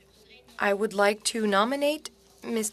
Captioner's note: speaking French